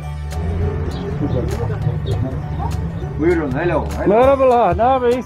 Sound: speaks foreign language

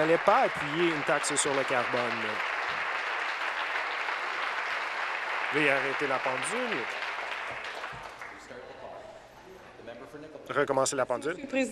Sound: applause

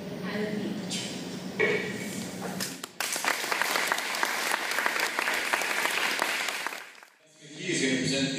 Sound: applause

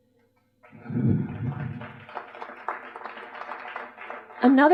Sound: applause

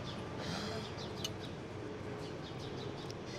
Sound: sighs

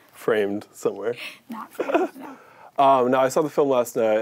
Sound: chuckles

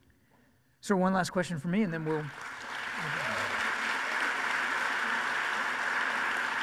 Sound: audience applauds

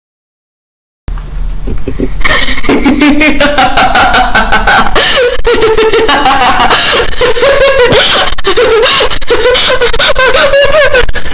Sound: laughing

